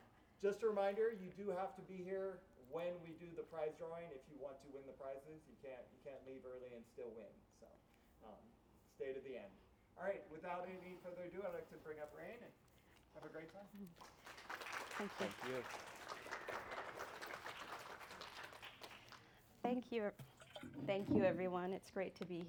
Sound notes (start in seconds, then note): 13.9 applause